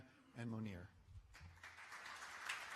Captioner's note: applause